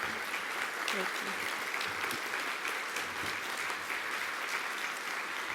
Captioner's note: audience applauding